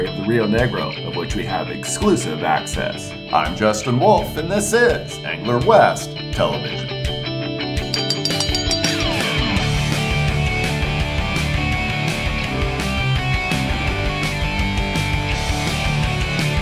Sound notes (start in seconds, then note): 7.8 bell ringing